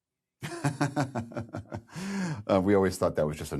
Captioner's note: laughs